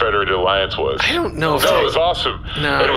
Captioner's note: excited